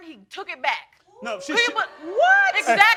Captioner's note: crowd oohing